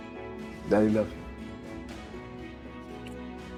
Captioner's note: kisses